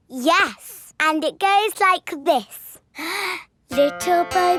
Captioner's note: inhales